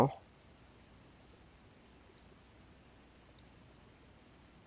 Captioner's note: mouse clicking